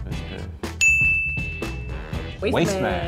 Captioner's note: dings